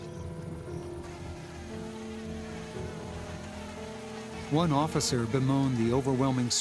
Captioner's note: alligators rumbling; insects buzzing